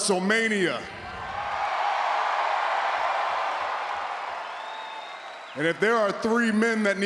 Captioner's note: applause